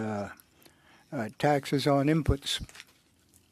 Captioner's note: speaking French